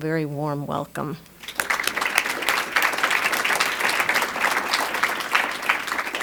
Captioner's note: applause